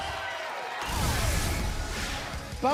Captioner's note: cheers and applause